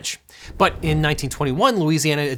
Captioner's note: air whooshing